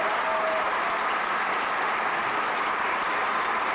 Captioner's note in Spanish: Aplausos